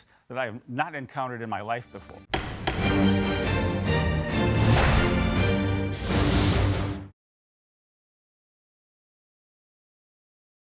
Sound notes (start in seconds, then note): 2.3 gavel banging; 2.3 tense dramatic music